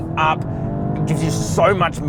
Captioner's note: car accelerating